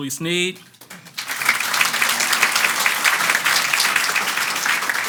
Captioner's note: audience applauds